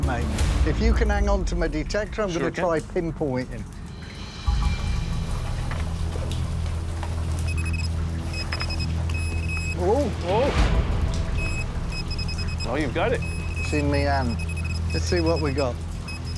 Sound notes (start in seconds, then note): 7.0 high-pitched beeps; 11.2 rapid beeping